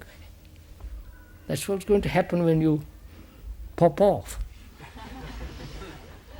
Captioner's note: laughter